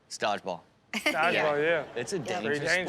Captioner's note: laughs